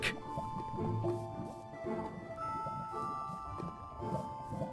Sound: lava bubbling

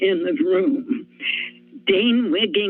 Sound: inhales

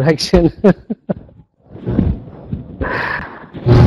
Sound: laughs

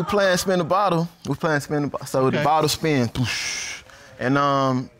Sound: blows

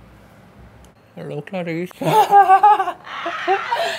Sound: both laughing

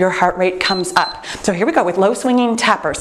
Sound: timer beeps

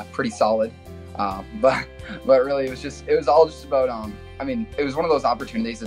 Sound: laughs

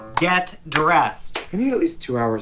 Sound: claps

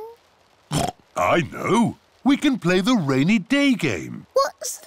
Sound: oinks

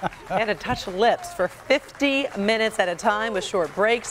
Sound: cheering

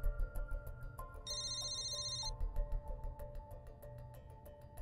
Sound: phone ringing

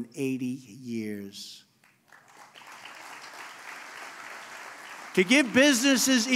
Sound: applause

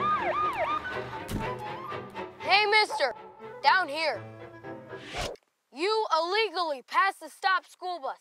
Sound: siren

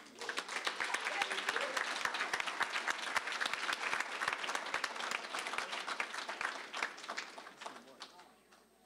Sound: applause

